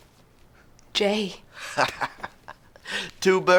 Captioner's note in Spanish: riendo